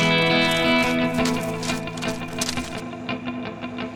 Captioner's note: rustling palms